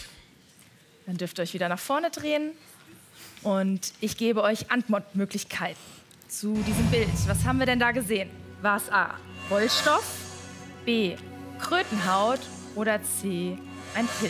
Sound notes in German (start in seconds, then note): none